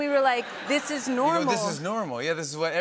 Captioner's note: laughter